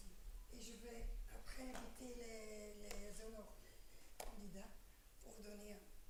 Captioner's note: speaking french